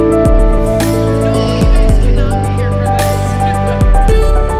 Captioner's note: giggles